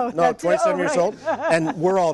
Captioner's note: laughter